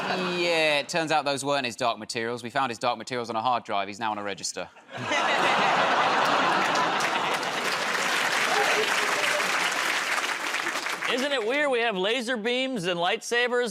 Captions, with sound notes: -Yeah. It turns out those weren't his dark materials. We found his dark materials on a hard drive. He's now on a register. [ Laughter ] [ Applause ] -Isn't it weird we have laser beams and light sabers